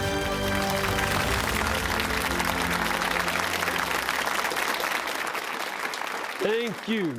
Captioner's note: applause